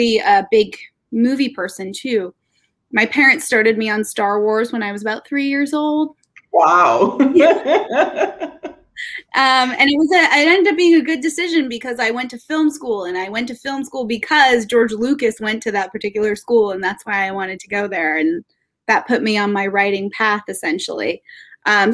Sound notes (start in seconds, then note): 9.1 laughing